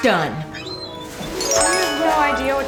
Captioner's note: magical chimes